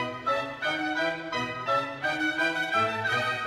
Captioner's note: none